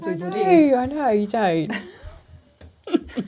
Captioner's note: giggling